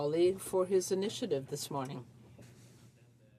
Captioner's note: speaking French